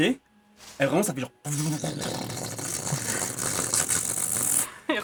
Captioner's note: vibrating sound